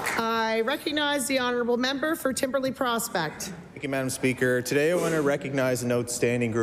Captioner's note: some Applause